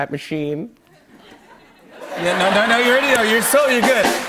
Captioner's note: laughter